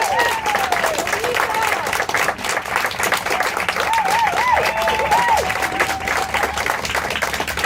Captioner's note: cheers and applause